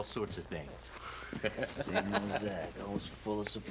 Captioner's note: laughing